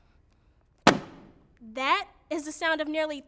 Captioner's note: sheets thudding